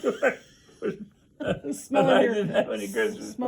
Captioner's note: interviewer laughs; laughs